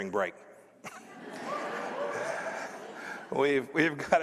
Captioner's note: laughter